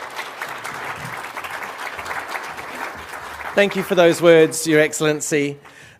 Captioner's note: applause